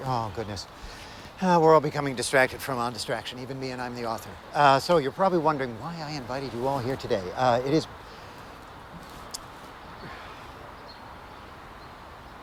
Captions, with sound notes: Oh, goodness. (sighs) We're all becoming distracted from "On Distraction". Even me, and I'm the author. So, you're probably wondering why I invited you all here today. It is... (Chris sighs)